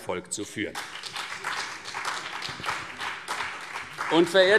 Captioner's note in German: Beifall CDU und BÜNDNIS 90/DIE GRÜNEN